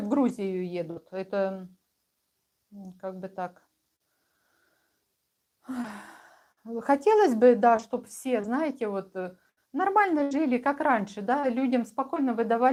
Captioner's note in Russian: вздыхает